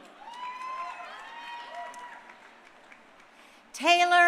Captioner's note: crowd cheering